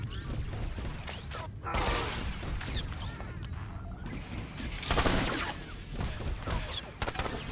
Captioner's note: gun firing